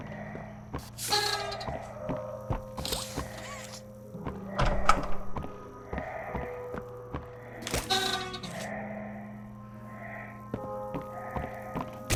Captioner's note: footsteps